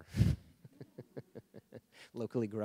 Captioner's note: laughing